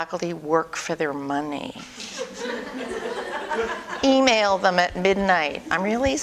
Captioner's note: audience: Laughter